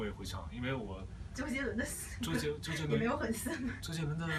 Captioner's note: laughs